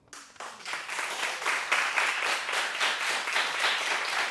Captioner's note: audience applauds